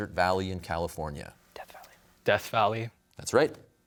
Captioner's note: whispers